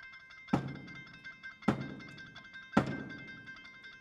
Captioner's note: staff thudding